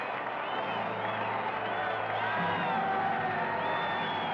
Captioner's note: whistling and cheering